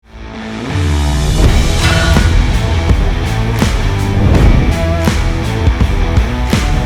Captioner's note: upbeat rock music; logo thumping